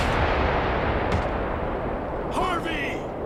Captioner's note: explosion; body thuds